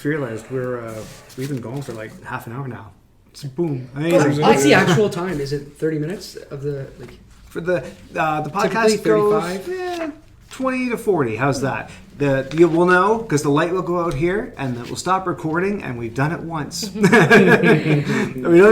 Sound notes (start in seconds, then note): 16.8 laughs